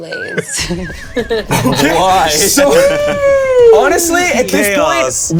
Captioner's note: players laughing